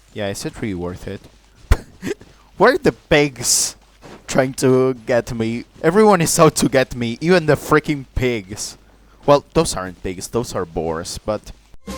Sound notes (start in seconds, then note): 1.8 laughs at the boars running around